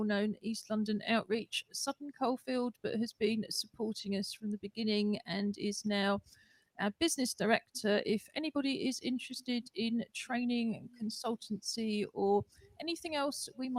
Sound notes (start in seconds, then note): none